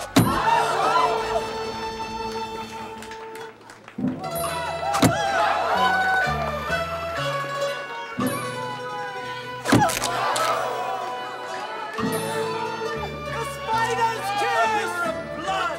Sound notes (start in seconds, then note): 0.1 gasps; 4.2 exclaims; 9.5 gasps